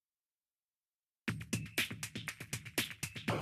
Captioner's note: none